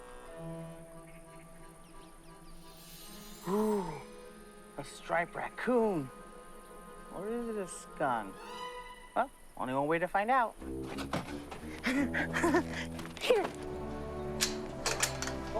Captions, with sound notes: (soft unsettled music) - Ooh, a striped raccoon. Or is it a skunk? Well, only one way to find out. (giggling) Here.